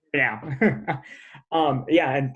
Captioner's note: laughing